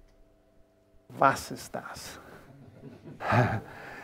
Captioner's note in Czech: německy